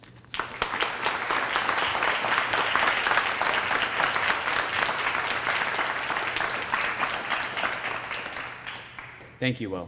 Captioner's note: applause